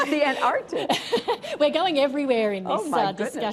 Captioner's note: laughter